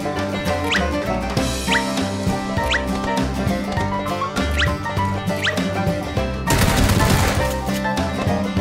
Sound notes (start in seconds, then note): 6.4 country Music; 6.4 shots; 7.4 country Music